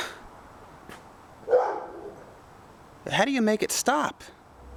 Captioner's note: barking